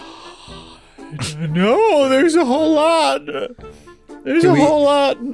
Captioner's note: unconvincingly